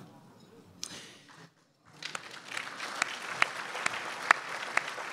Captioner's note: crowd applauds